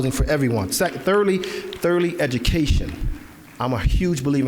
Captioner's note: applause